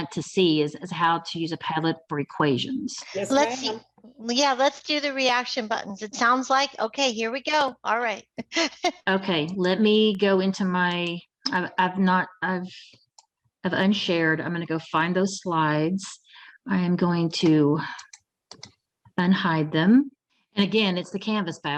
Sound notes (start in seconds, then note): 8.4 laughs